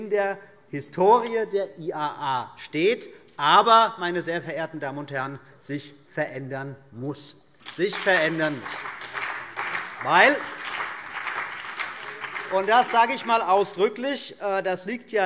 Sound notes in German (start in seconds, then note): 7.6 Beifall BÜNDNIS 90/DIE GRÜNEN, vereinzelt CDU und DIE LINKE